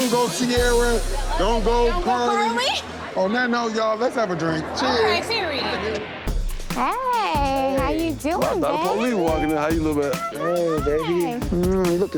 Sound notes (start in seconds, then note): 3.3 laughing